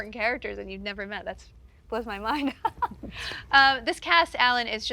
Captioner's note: chuckles